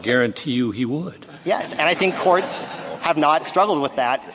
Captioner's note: laughter